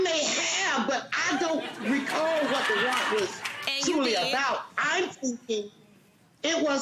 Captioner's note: court laughing